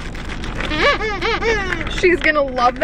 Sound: toy squeaks

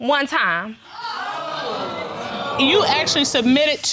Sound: audience exclaims

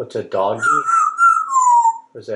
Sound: whistles

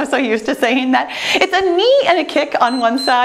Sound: timer beeps

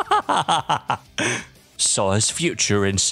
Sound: laugh

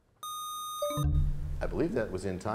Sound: buzzer sound; bell chimes, time expires

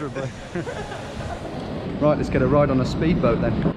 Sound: laughing

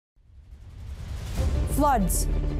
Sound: whooshing

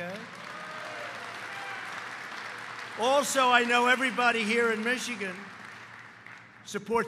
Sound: applause

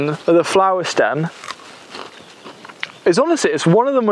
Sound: stem crunches

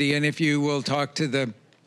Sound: none

